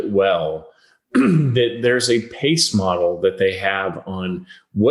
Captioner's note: clears throat